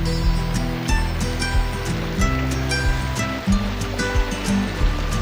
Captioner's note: running Water